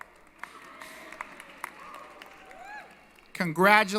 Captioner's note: applause & Cheering